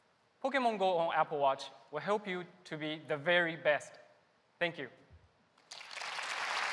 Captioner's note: applause